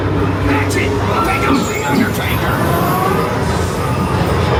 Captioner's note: everybody screaming; scareactor faintly speaking; spooky music